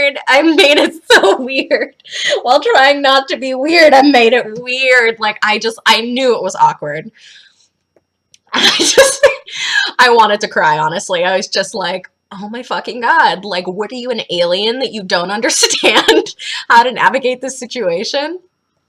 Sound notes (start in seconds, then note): 8.6 laughs